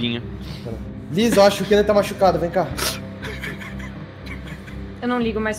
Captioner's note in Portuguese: Chora